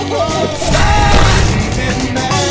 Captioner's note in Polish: Krzyk Grubego